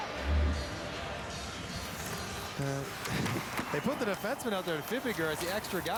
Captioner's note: cheering